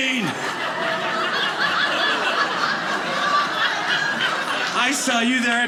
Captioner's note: audience laughing